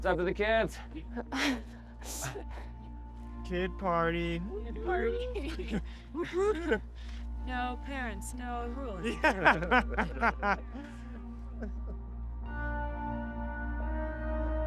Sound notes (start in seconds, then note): 9.0 laughing